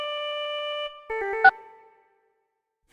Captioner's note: phone beeps, ringtone stops